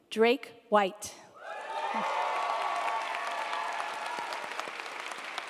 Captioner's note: audience applauding